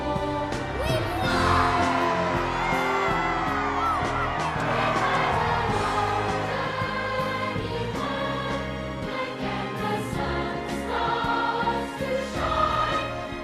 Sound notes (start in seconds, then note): 2.8 cheering